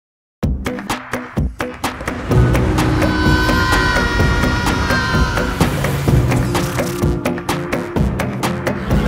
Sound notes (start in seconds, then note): 2.8 Rabbids Yelling